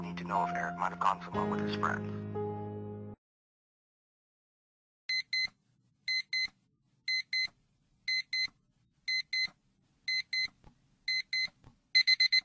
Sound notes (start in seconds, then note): 5.3 alarm beeping